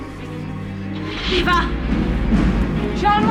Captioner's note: car door closes; engine starts